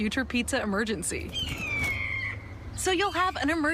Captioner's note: eagle cawing